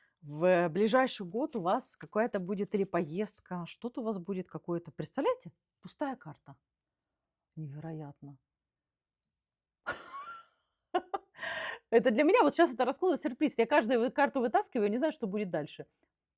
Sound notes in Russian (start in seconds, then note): 9.8 смех